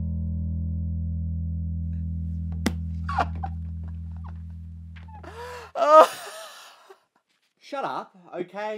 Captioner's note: Sidekick laughs